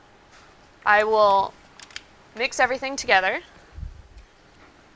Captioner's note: plastic clicks